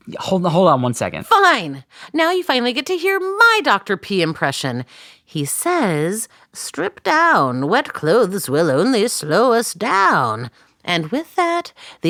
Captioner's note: exasperated